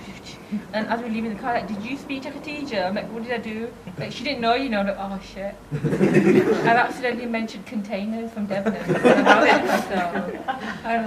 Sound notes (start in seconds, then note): 5.7 audience laughs